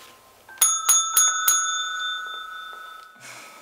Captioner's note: bell dinging